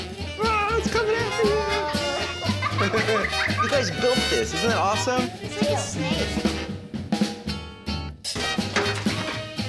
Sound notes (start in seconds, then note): 2.3 children laughing